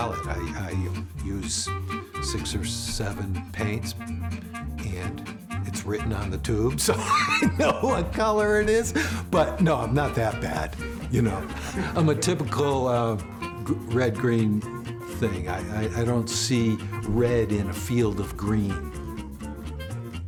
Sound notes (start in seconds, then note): 6.8 laughing loudly